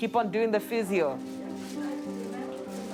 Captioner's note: indistinct chatter